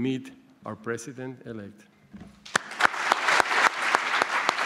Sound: applause

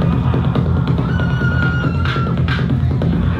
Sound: high pitch screaming

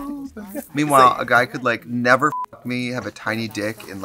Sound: beep

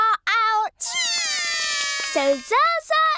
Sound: both cry

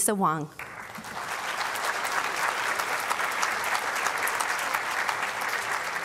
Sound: applause

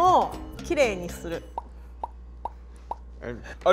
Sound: bubbles popping

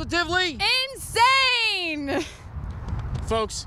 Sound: laughs

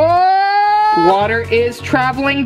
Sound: screaming

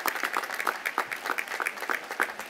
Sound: applause

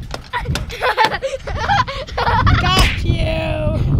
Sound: laughing

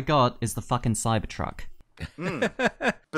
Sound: laughter

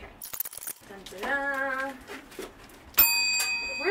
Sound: bell rings

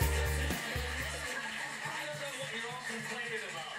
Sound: tv on in background

